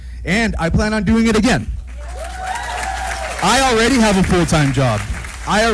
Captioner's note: applause